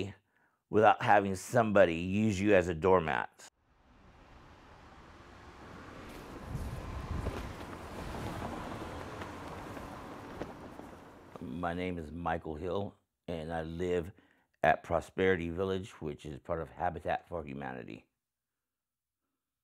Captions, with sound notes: without having somebody use you as a doormat. (wind blowing) My name is Michael Hill and I live at Prosperity Village which is part of Habitat for Humanity.